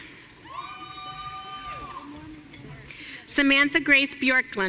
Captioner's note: audience cheering